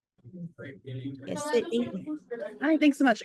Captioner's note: indistinct background chatter